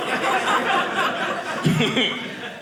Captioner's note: audience laughing